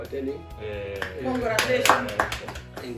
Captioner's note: clapping